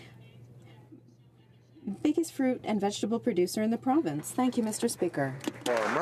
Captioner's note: speaking French